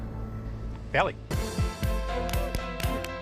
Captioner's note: clapping